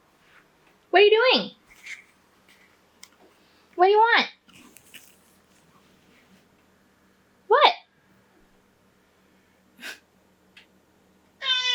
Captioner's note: cat meowing